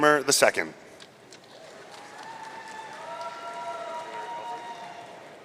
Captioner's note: audience cheering